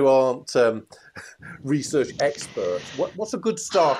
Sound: laughs

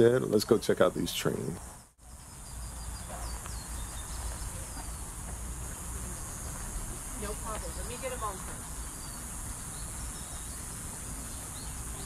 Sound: birds chirping; cicadas buzzing

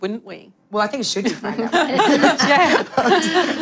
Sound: laughter

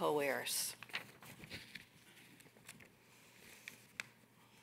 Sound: paper rustling

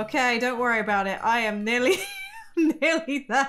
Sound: laughs

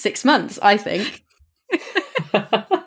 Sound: laugh

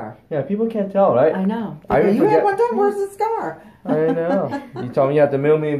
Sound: laughs

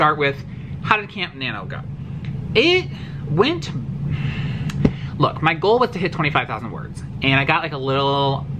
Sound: sad sigh

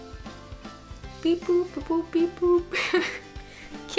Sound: makes robot sound effects; laughs

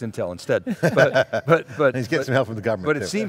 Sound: men laughing

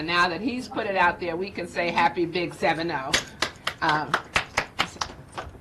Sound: clapping

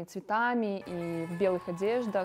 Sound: speaking russian

